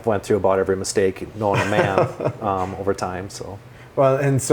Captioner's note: laughs